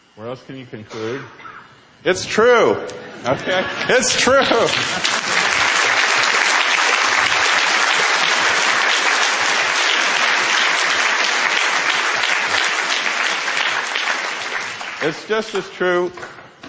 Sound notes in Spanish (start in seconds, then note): 3.0 Risas; 6.9 Aplausos